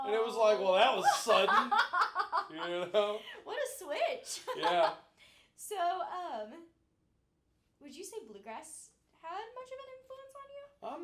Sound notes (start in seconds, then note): 1.0 laughing